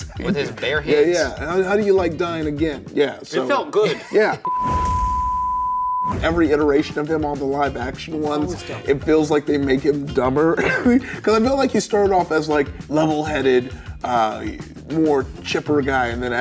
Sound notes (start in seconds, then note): 4.4 screen beeping; 10.5 laughs